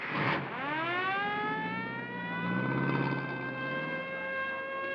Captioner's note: sirens blaring